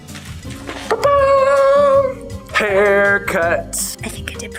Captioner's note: exclaims